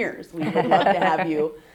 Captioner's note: laughs